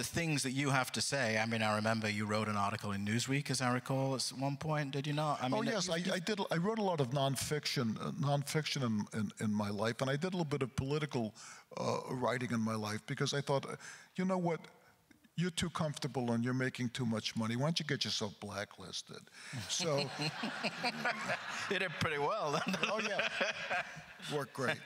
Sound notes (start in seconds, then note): 19.6 laughs; 19.6 crowd laughter